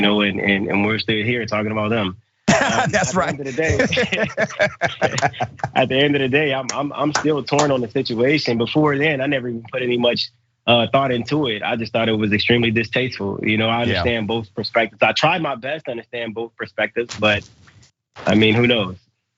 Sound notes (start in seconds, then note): 4.6 laugh